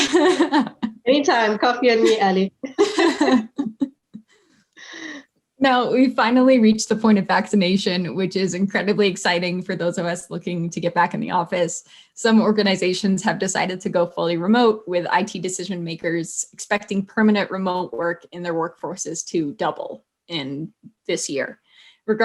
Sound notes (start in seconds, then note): 0.0 laughs; 2.6 both laughs